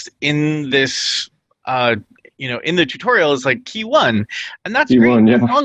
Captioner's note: laughs